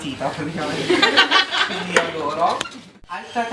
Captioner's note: students laugh